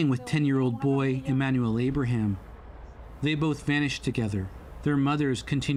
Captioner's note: speaking alternate language